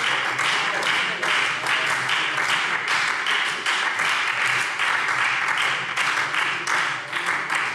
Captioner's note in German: Beifall SPD